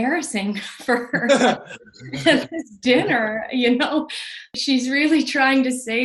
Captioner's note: laughing